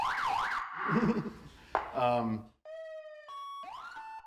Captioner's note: siren blaring